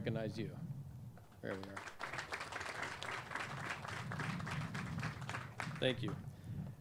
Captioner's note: clapping